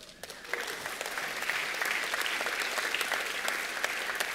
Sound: applause

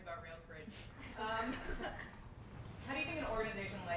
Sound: everyone laughs

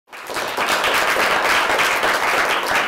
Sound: applause

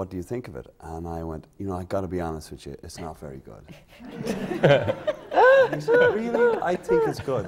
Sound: laughter

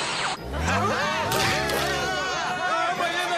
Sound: screaming

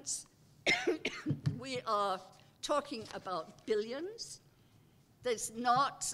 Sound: cough

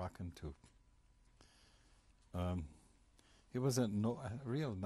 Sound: pauses for 3 seconds

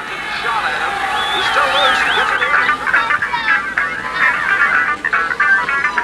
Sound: city sounds, police siren

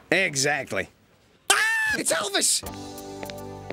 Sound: screams

